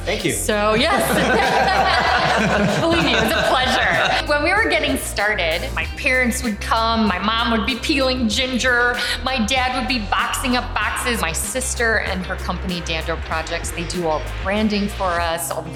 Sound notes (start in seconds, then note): 0.8 all laughing